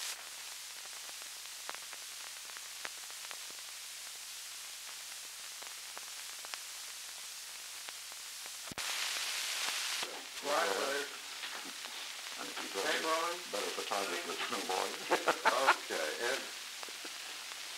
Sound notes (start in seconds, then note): 11.2 Truman and Murrow mumbling and laughing